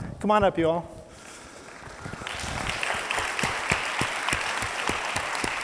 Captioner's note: audience applauds